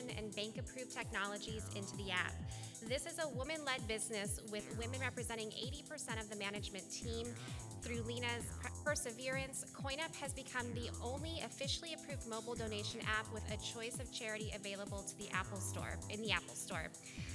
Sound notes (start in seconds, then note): none